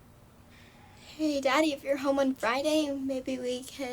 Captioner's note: sighs